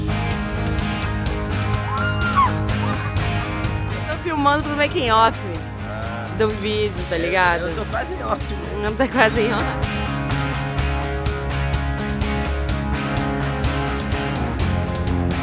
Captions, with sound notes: I'm recording for the making of of a video, you know? Yeah, I'm almost off. Almost off (laughs)